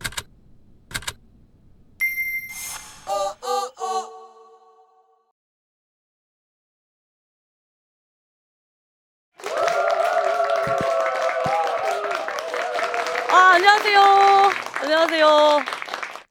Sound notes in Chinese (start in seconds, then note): 9.3 掌声